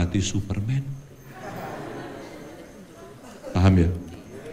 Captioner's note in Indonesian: tertawa